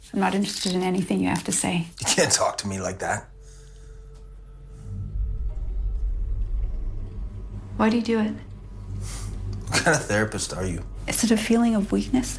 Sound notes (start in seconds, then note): 1.9 scoff